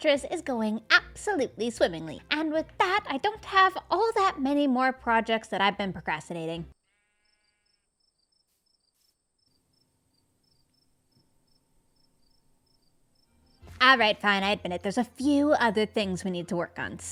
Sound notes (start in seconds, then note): 6.8 crickets